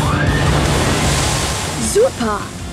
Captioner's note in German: Schreie